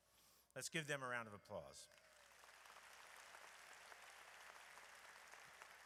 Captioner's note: audience applauds